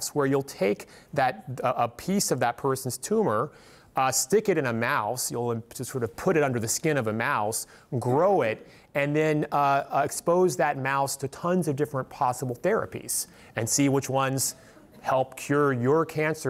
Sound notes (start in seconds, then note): none